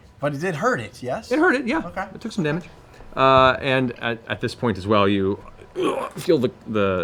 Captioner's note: grunt